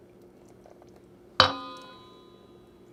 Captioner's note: metallic ding